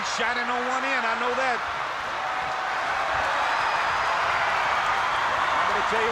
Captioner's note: applause